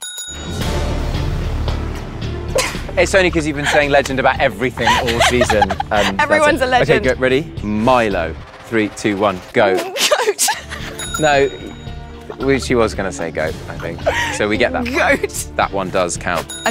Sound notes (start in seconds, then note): 0.0 bell rings twice; 0.3 Jessie laughs; 0.3 dramatic music; 6.0 Jessie chuckles; 9.6 chuckles; 11.0 bell rings twice; 16.5 bell dings